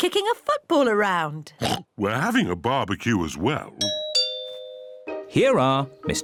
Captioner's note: oinks; doorbell rings